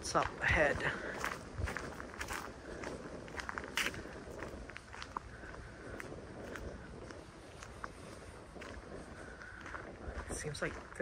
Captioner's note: walking on gravel